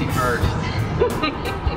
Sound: laughter

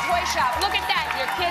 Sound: applause

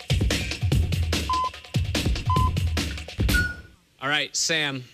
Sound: electronic beeping

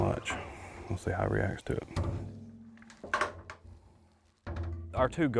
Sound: metal clattering

